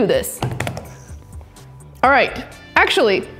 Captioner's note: hands thud